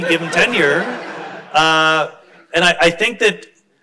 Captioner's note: crowd laughs